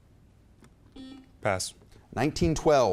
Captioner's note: beep